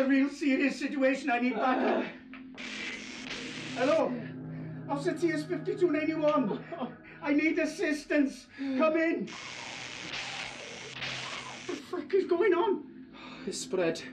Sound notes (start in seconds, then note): 2.5 static hissing; 9.3 staticky snarling